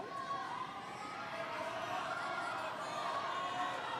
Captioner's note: screaming